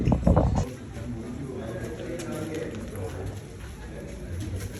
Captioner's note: far-off chatter